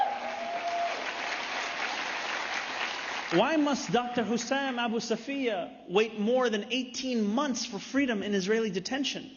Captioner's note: applause